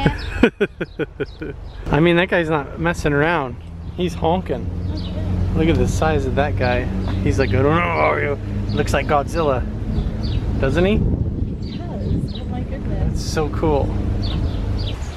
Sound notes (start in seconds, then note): 0.0 chuckles; 8.2 grunts